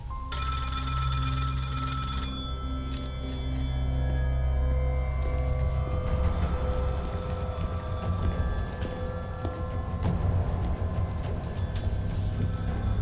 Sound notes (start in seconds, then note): 0.0 tense music continues; 0.1 phone ringing; 5.7 tense music; 6.4 phone ringing